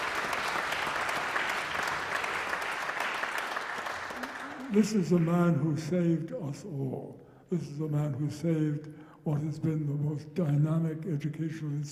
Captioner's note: applause